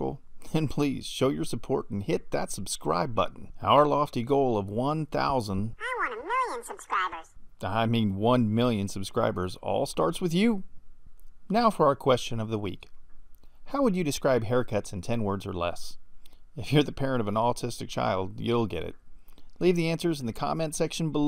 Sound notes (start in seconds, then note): 7.5 man's voice